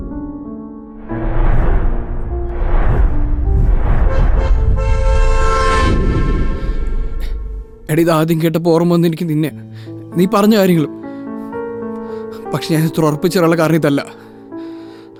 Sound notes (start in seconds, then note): 4.5 vehicles honking; 4.9 vehicle approaching